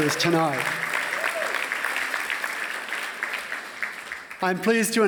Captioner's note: applause